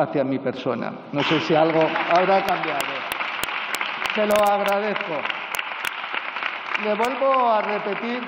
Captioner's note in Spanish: Aplausos